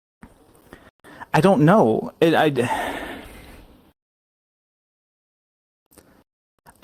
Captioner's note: stammering; exhales